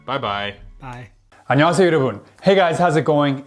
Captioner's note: speaking in foreign language